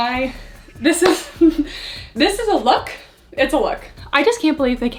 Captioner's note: chuckles